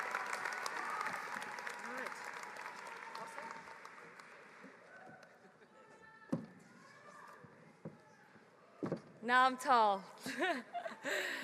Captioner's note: applause